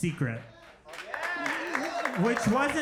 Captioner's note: crowd cheers